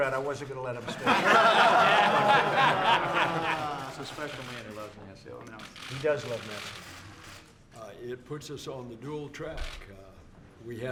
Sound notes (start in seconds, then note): 0.8 laughter